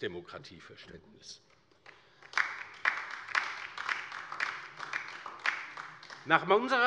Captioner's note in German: Beifall bei der LINKEN